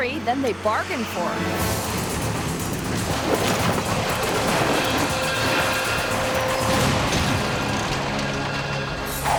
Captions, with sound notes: than they bargained for. (dramatic music) (truck banging and crashing)